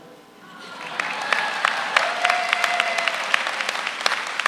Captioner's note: audience applauds